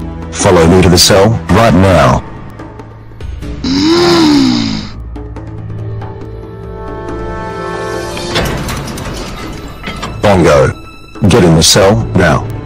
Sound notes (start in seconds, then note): 8.3 jail cell opens